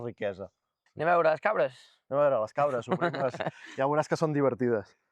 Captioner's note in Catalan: rialles